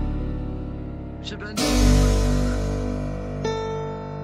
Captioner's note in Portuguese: Conversa no fundo